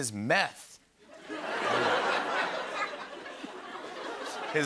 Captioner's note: laughter